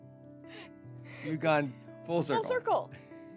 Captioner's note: laughing